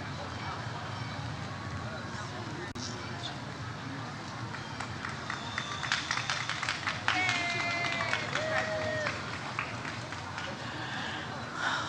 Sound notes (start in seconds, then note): 4.7 audience cheers